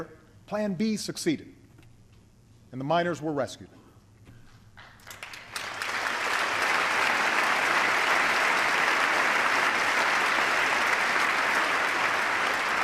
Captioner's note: applause